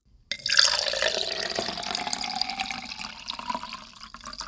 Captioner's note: pouring water